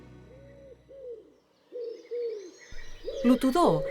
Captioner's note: singing of the ringdove